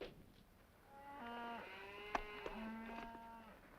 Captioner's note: cows mooing